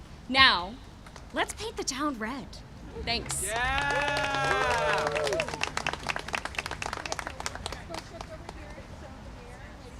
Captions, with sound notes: Now, let's paint the town red. Thanks! (applause and cheering)